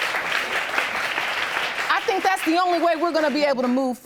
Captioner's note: applause